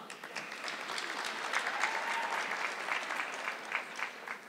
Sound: audience clapping

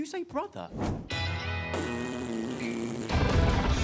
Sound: blowing raspberries

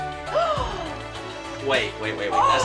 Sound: gasps

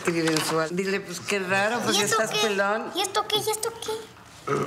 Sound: all speaking Spanish

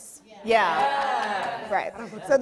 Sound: audience cheers

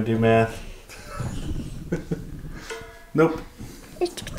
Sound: laughing

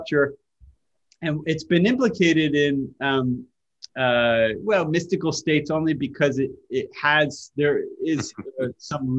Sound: Sadhguru laughs

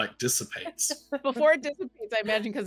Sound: laughs

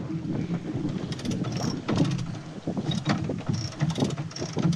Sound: ratcheting

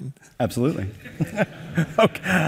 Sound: laughing

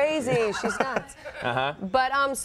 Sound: audience laughs

